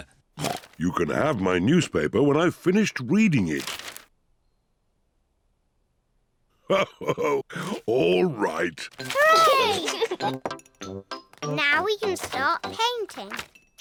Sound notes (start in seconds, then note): 9.4 giggles